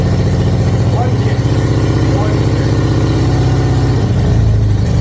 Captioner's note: engine running